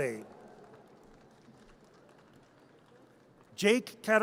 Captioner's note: audience cheers